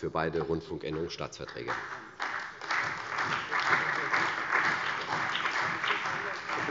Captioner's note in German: Beifall bei der CDU und dem BÜNDNIS 90/DIE GRÜNEN